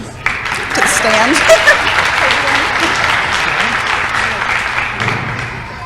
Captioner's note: applause